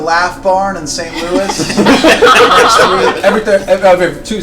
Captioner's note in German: Gelächter